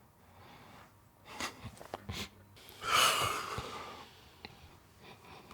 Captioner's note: exhaling